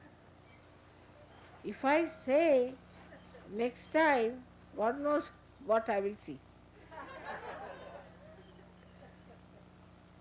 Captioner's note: laughter